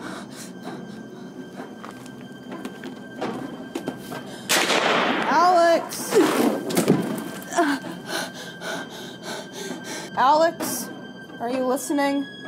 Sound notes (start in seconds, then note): 0.1 dramatic music continues; 4.5 gun bangs; 7.6 panting